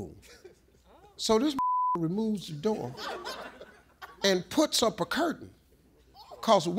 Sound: beep

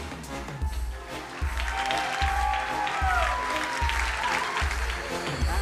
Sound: crowd cheering and applauding

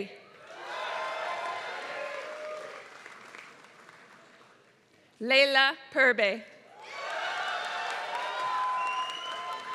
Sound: applause

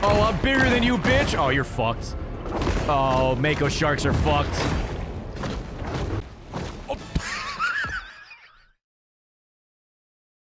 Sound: laughs

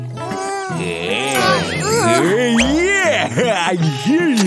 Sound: making happy sounds; sighs

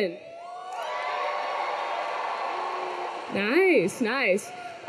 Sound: students cheering

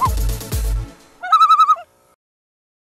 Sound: loon call

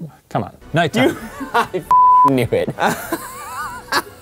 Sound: laughs

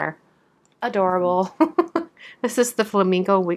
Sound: laughs

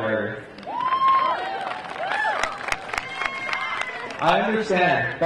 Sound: audience cheering and clapping

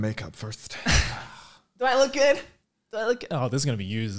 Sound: laughs

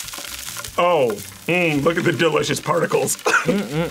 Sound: laughs

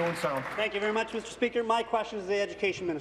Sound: applause

